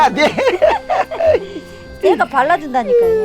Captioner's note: both laughing